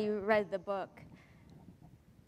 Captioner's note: pause